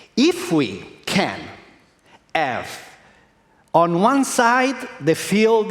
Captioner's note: none